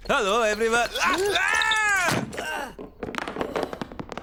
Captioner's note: thud!; clattering